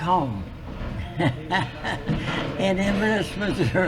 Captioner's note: laughs